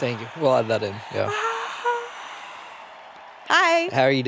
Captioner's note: crowd cheers; cheers